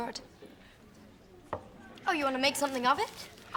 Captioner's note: glass thuds